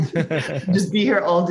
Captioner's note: chuckles